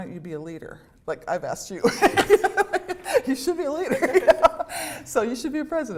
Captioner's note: laughter